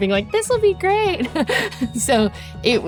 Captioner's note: laughs